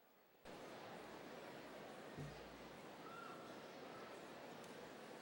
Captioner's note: audience chattering